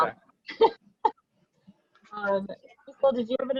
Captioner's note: laughing